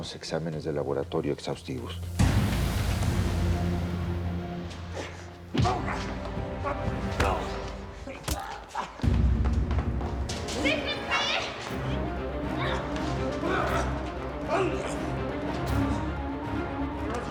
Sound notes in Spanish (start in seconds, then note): 6.6 Quejidos; 7.4 Golpes